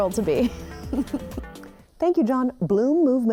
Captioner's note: laughs